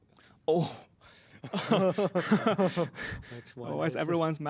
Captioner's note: laughter